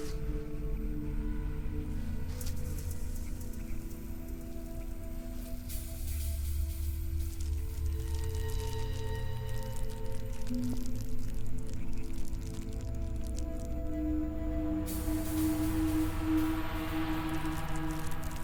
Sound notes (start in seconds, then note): 8.2 plastic unrolling; 15.6 tense music